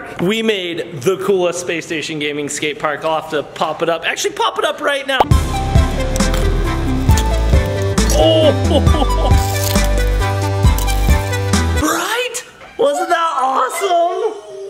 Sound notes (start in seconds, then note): 5.2 playful music; 6.0 popping sound; 8.1 laughs